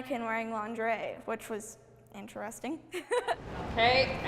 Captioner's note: laughing